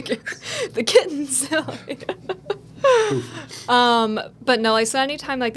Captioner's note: laughing